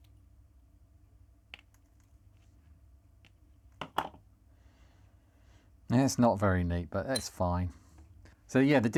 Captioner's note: silence